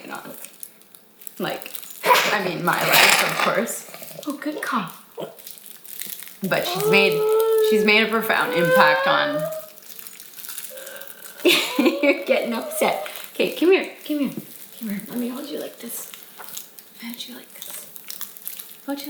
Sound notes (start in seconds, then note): 11.3 laughs